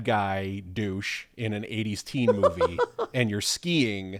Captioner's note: laughing